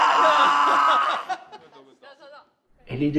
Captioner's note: laughter